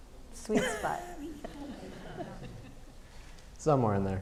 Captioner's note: audience laughing